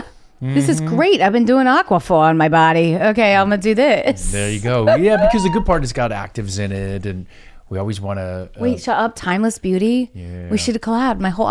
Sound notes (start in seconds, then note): 4.8 chuckles